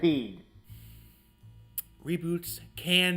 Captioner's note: deep breath